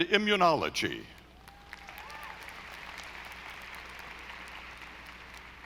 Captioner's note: audience applauding